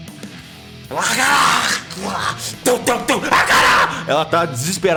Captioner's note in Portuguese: Grunhidos